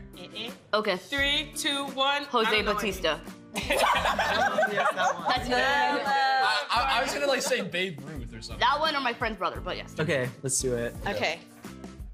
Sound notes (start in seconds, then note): 3.6 all laughing